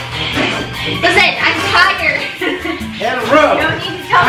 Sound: laughs

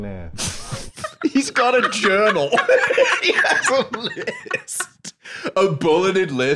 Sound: laughing

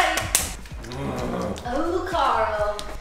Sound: growling

